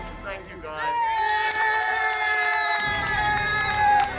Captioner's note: crowd applauds